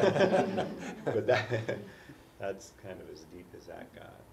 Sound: laugh

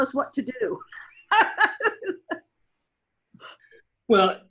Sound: laughs

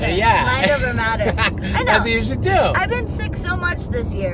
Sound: laughs

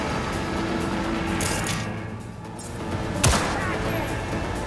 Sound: gun firing

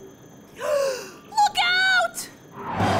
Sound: gasp

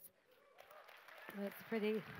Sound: applause

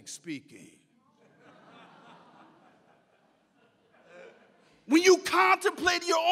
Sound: audience laughs

